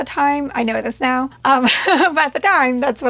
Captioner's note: chuckles